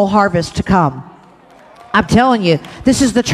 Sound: congregation cheers

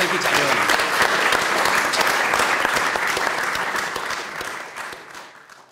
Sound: applause

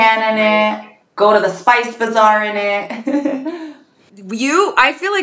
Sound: laughs

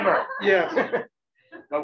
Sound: chuckles

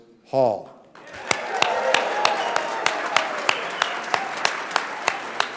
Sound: audience applauding

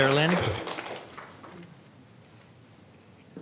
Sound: applause

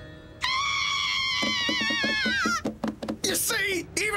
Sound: both screaming

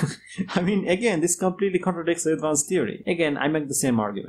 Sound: laughs

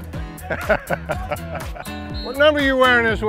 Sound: laughs

